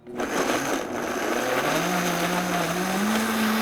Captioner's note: blender whirs